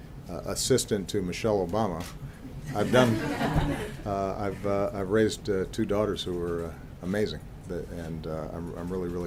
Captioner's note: laughter